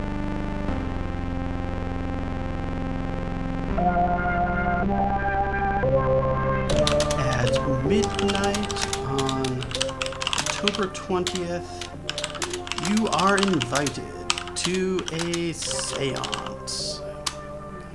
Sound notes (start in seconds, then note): 6.7 typing sounds